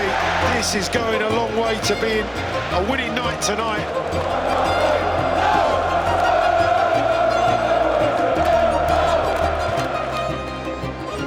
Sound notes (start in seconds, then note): 5.1 crowd chanting